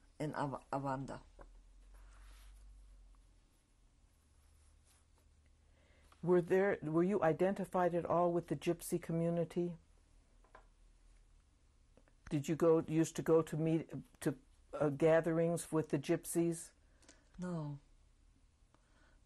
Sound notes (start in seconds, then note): 9.2 pauses for 3 seconds